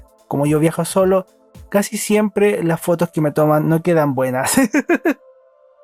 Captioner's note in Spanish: risas